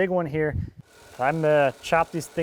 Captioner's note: jigsaw buzzing